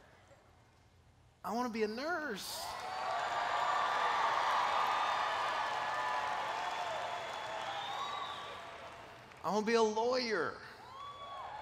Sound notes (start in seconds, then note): 2.5 cheers